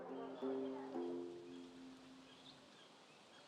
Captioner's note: birdsong